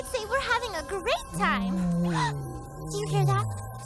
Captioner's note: gasps; low-pitched moan